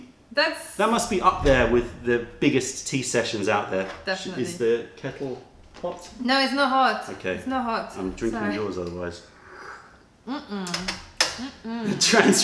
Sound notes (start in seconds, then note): 10.3 sips tea